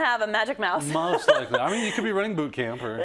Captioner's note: laugh